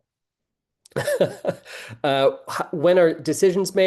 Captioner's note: laughing